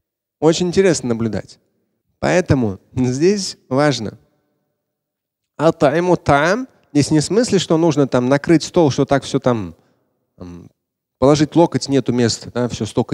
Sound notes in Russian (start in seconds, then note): 4.2 говорит на арабском